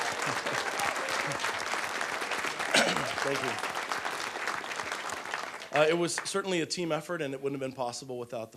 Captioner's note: applause